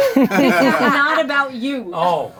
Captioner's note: laughing